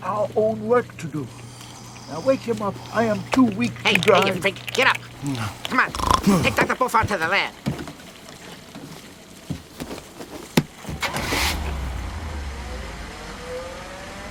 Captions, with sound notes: We've got our own work to do. Now, wake him up. I am too weak to drive. Hey, dingus, get up. [ Groans, snorts ] Come on. Take Dr. boiffard to the lab. [ Engine turns over ]